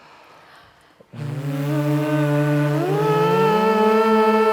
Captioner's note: all vocalizing